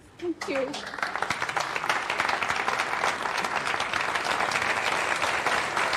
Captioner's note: audience applauding